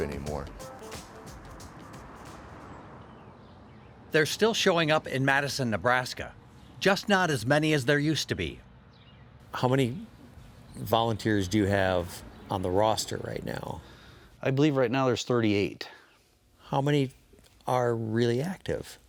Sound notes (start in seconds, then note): 1.6 tires on pavement; 2.8 birds chirping